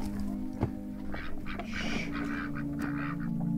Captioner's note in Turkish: Tavuk ve Kaz Sesleri